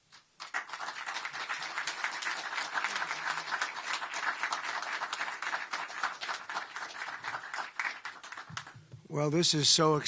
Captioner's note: applause